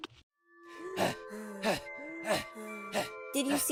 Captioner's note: panting